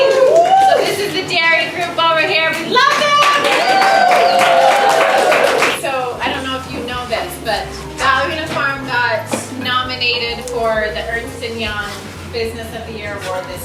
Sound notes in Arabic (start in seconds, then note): 2.9 تصفيق